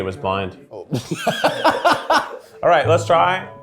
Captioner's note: laughing; imitating laughter